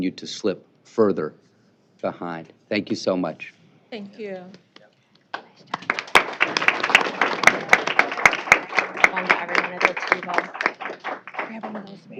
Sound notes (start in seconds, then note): 5.3 applause